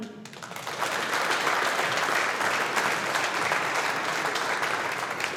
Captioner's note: audience applauding